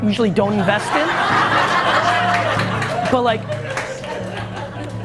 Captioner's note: audience laughs